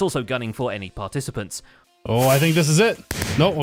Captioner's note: fireworks explode